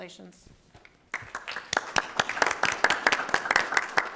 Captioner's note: clapping